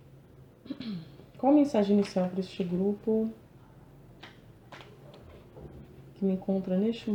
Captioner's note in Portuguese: limpando a garganta